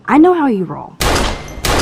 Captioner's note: gunshot